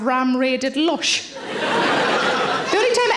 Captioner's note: audience laughing